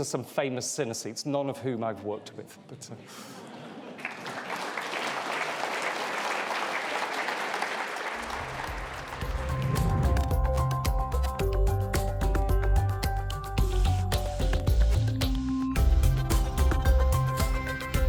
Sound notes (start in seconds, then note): 3.9 applause; 9.4 bright music